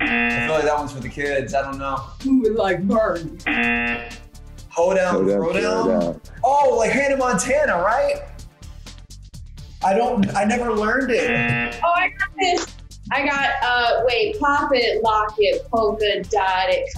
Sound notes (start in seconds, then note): 0.0 buzzer; 3.4 buzzer; 11.2 buzzer